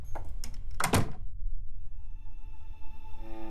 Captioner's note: Door closes